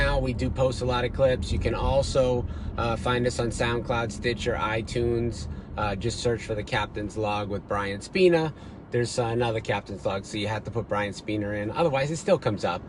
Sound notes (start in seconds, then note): none